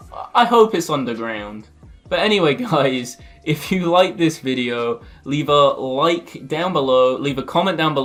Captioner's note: worried tone